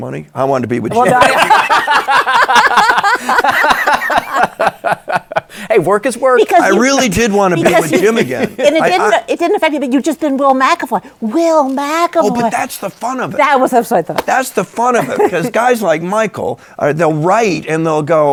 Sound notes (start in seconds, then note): 0.9 laughter